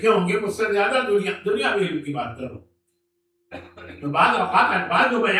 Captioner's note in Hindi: गला साफ़ करने की आवाज़